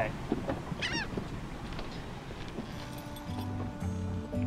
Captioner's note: seagull squawks; uplifting music